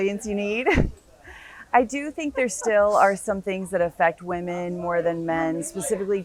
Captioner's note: laugh